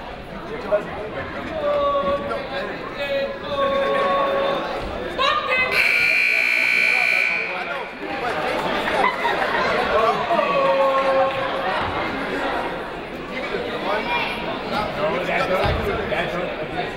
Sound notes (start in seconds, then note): 0.1 people talking in the crowd; 5.2 people shouting in the crowd; 5.7 buzzer ringing; 8.6 people shouting in the crowd